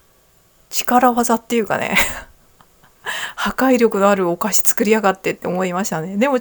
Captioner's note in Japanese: 笑い